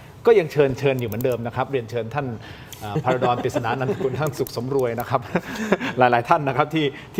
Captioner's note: laughter